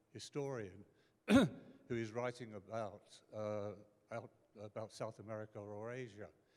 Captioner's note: clears throat